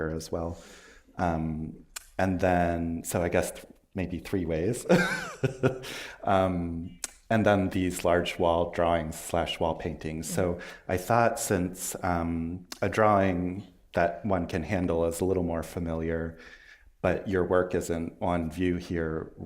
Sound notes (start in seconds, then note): 4.8 chuckles